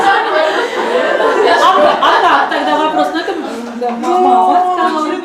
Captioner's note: laughter in the audience